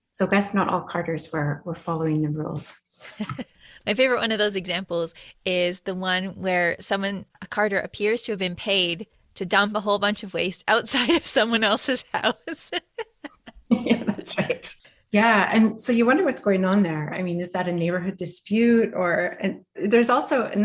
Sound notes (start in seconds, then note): 12.0 laughter